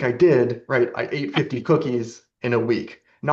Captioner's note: laughs